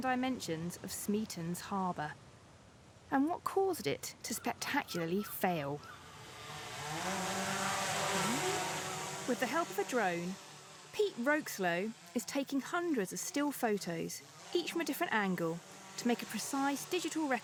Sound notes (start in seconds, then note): 9.4 drone whirring